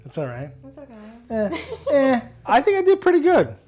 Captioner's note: laughs